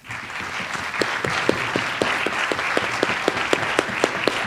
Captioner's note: audience applauds